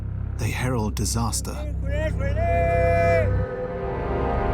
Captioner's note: shouts in Maya